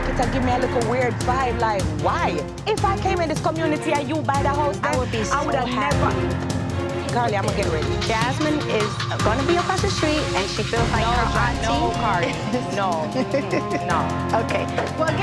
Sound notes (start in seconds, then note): 3.4 tense dramatic music; 12.1 tense dramatic music; 12.4 laughs